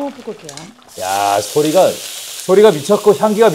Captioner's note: sizzle